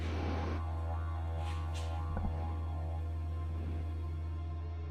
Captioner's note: Bigfoot breathing heavily